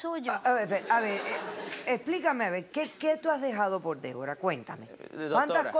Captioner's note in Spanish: Risas